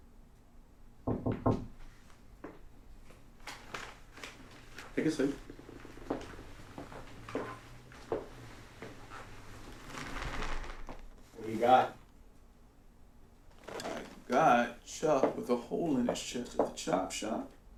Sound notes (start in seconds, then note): 1.0 knocking